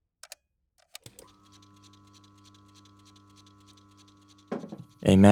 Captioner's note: clicking sound; cassette recording sound; thump